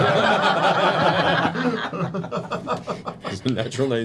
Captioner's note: laughter